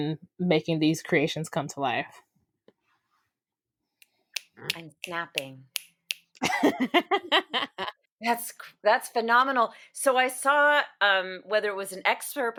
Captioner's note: snaps* laughter